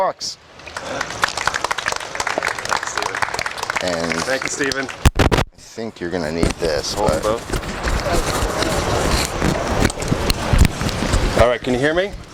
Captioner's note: applause